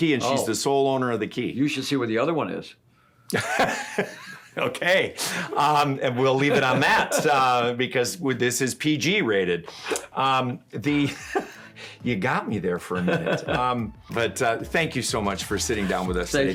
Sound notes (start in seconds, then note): 6.1 laughs; 12.9 laughs